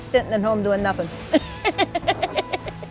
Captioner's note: laughs; light playful music